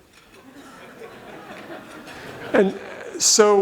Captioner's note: audience laughs